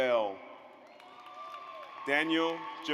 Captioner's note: audience applauds